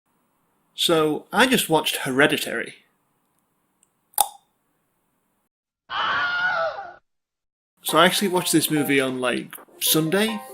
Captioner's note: clicks tongue